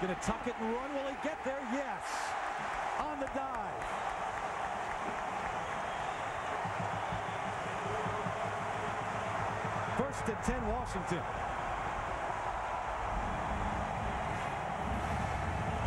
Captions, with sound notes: Going to tuck it and run. Will he get there? Yes! On the dive! [CHEERING, APPLAUSE] First and 10, Washington. [CHEERING, APPLAUSE]